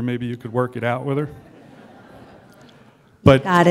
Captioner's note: laughter